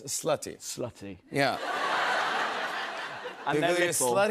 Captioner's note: laughter